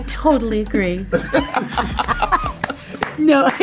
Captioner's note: both laugh